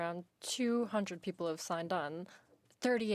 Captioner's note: speaking in French